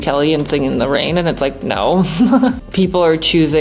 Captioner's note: chuckles